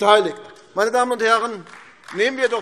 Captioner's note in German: Beifall AfD